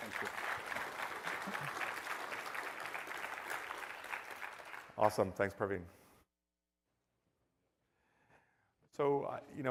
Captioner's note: applause